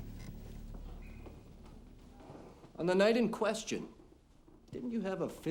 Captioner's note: none